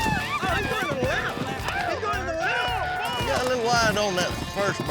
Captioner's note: cheering